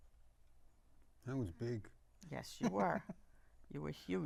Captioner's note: laughing